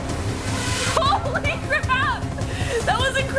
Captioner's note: laughs